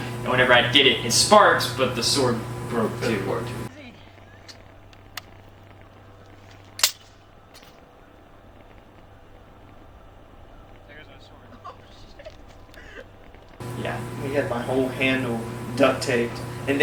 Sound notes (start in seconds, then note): 6.8 sword clanking